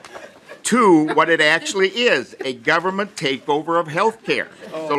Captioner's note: laughing